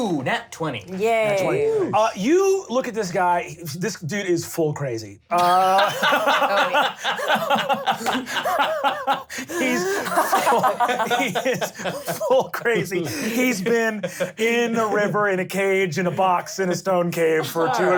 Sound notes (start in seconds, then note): 5.4 laughs; 6.6 laughter